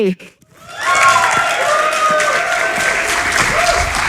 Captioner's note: cheers and applause